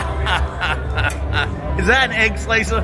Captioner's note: laughs